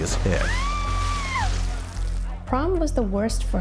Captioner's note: girl screaming